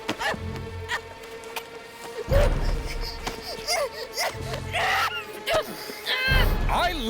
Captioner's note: Mackenzie grunts; tense music; Mackenzie grunts